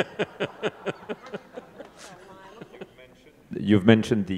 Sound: laughing; audience chuckling; speaking faintly

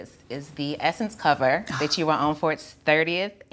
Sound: laughing

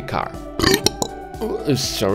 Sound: burps

